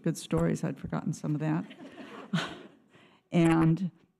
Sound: audience laughter

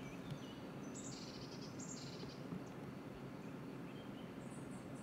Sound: sounds of the forest. Birds chirping

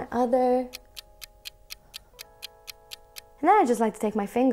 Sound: clock ticking

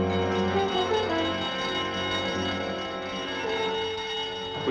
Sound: alarm bell ringing

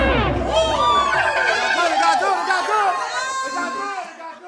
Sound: cheers

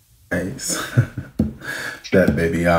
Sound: chuckling

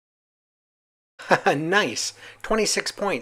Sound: laughs

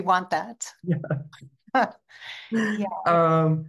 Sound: both chuckling

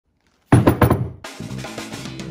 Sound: pounding; upbeat music

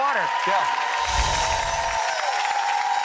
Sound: audience cheers and claps; twinkling chimes

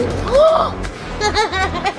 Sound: gasps; laughs

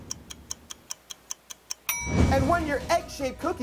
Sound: clock ticking

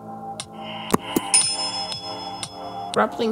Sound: ding

